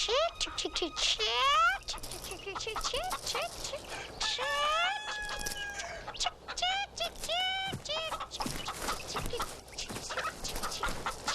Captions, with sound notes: - Chick, chick chick chick, chick. Chick chick chick chick chick, chick chick, chick, (rooster crowing) chick chick, chick chick. (chickens clucking)